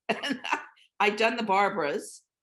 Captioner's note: laughing